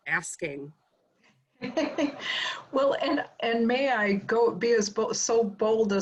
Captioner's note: laugh